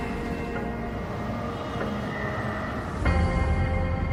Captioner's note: trains rumbling